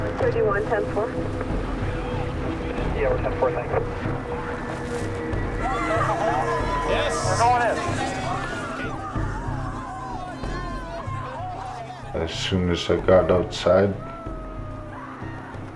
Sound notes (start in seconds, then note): 5.9 people shouting; 9.7 people shouting